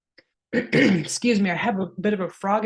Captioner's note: coughs softly